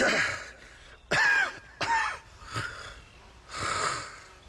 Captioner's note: coughing